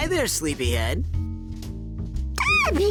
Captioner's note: cooing; laughing